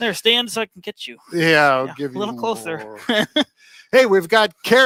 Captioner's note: chuckles